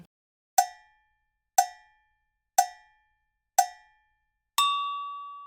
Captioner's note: cowbell tolls rhythmically; bell dings